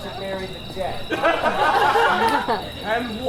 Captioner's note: audience laughs